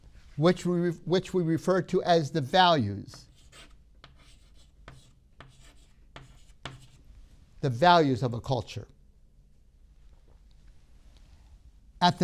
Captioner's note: chalk sounds